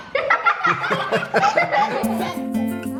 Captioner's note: kids and dad laugh; upbeat guitar music